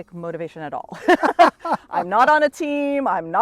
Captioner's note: laughing